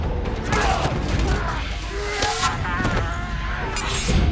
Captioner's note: grunting and yelling